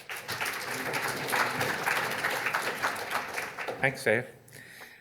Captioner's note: audience applauding